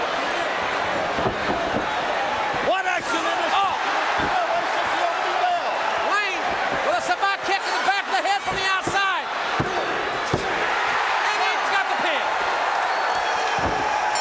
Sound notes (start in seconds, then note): 0.2 audience cheering; 10.2 hand thudding; 11.3 audience cheering